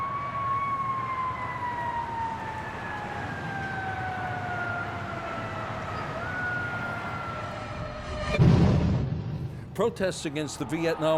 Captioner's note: sirens